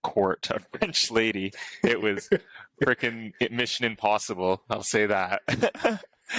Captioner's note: laughter